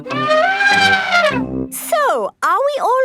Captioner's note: trumpeting